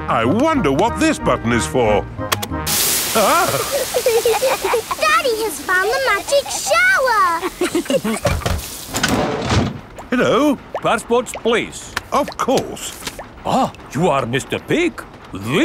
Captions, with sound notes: I wonder what this button is for. (LAUGHING) Daddy has found the magic shower! Hello? Passports please! Of course! Ah, you are Mr. Pig!